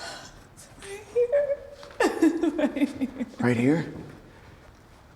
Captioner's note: sobbing